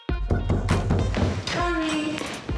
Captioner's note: knock on door